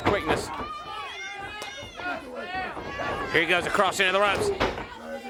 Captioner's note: crowd cheering